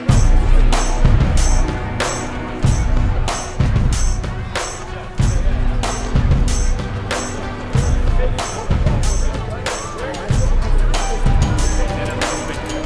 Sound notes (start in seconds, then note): 0.3 gripping music intensifies; 4.2 congregation chattering indistinctly